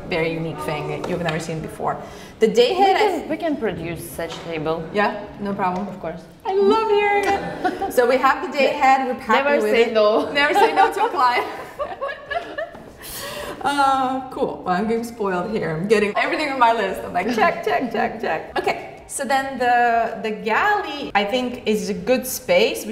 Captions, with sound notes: very unique thing that you've never seen before. The day head, I- - We can, we can produce such table. - Yeah? No problem. - Of course. - I love hearing it. (laughing) So we have the day head, we pack- - Never say no. - Never say no to a client. (both laugh) Ah, cool. Well I'm getting spoiled here. I'm getting everything on my list. I'm like check, check, check, check. Okay, so then the, the galley I think is a good space.